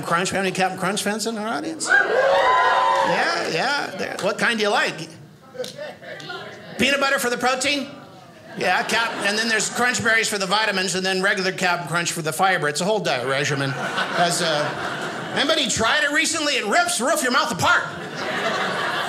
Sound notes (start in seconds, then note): 1.8 audience cheers